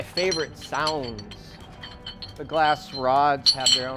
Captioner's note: clinking of glass